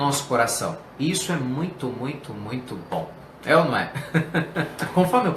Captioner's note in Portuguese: risos